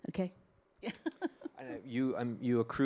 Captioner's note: chuckles